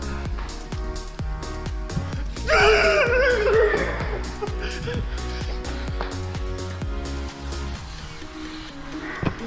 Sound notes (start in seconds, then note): 2.5 growls; 2.5 screams